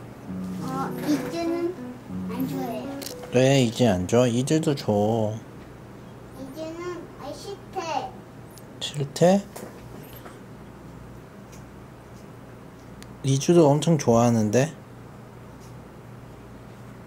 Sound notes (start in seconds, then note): none